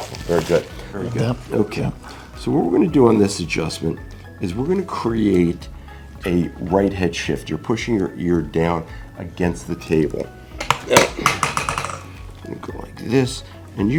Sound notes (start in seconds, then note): 11.3 lever tapping